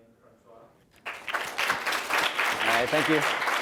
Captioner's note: applause